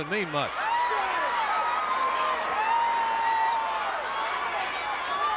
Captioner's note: audience cheering